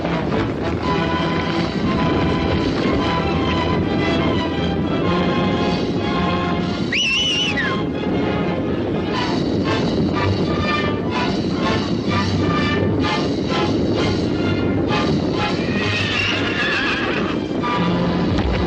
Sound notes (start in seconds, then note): 6.8 ranch hand whistles; 15.8 horse neighing